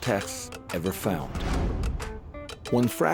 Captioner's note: whooshing